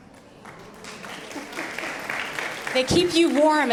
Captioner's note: audience applauding